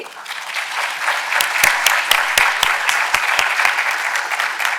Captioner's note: audience applauding